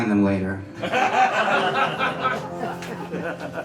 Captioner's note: laughs